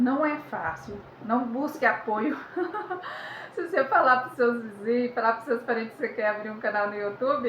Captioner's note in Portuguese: risadas